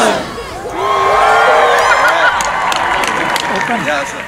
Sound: everyone cheers

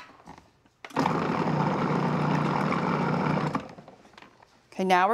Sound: processor whirring

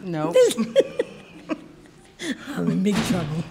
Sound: laughing

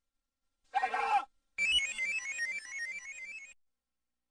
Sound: screaming; descending 16-bit computer beeps

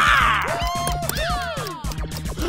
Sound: cheering

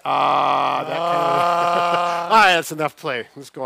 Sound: laughs

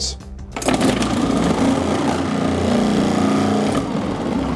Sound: blender rumbling

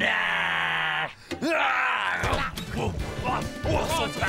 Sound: growling ravenously; groaning and munching

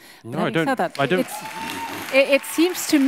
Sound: audience cheering

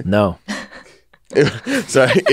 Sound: laughs

